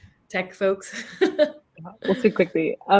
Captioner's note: laughs